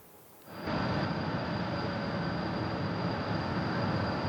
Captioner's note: machines humming